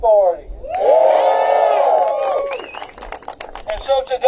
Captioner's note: applause